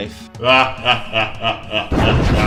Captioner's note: evil laugh